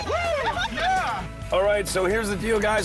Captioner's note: cheering